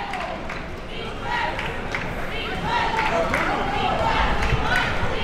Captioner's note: crowd chanting